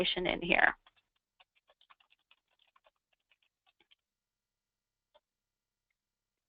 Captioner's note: computer keyboard keys tapping